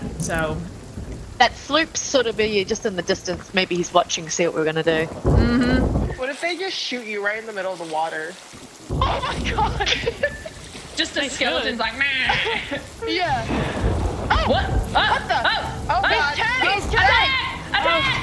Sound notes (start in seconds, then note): 8.2 laugh